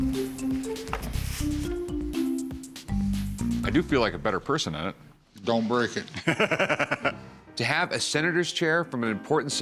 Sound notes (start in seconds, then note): 6.1 laughs